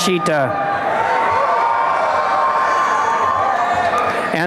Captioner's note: applause and cheering